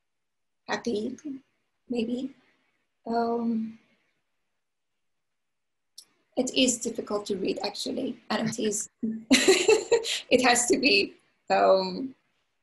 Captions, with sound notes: That is difficult to read actually, and it is (laughs) it has to be vertical, it is vertical.